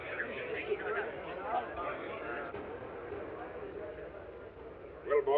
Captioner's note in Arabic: تمتمة الحشد